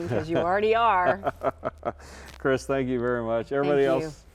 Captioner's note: laughs